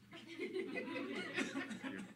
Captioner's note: laughter